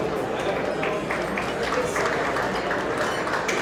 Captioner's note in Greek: κοινό χειροκροτεί